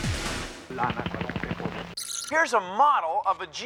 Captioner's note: flapping